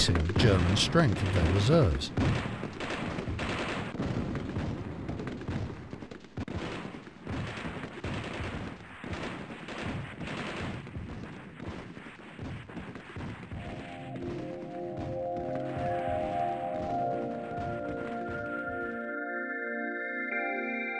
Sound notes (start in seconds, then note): 4.0 guns bang; 16.7 somber music